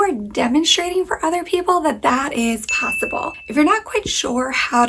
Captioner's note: bell chimes